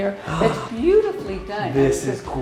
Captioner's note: gasps